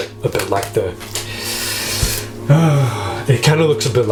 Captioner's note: sighs